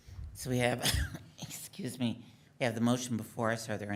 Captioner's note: coughs